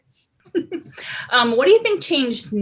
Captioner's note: chuckling